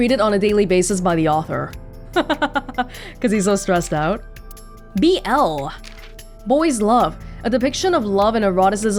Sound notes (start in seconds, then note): 2.1 chuckles